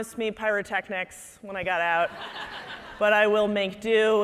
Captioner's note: audience laughing